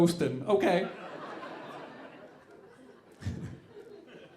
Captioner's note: audience laughing